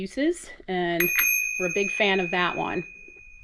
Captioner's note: bell ringing